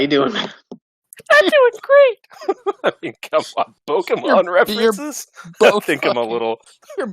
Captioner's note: high pitch squeaky voice; laughing